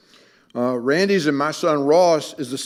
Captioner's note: none